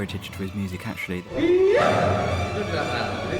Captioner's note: yells